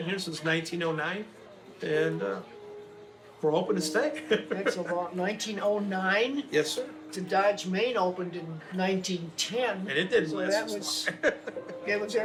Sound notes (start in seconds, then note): 4.0 laughing; 11.2 laughs quickly